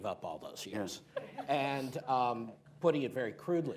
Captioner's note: laughter